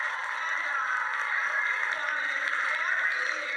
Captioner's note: cheering over speech